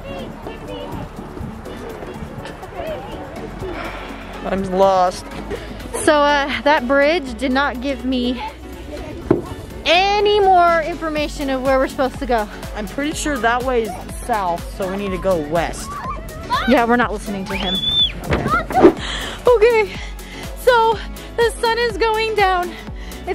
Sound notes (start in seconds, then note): 3.6 sighs; 18.1 woosh noise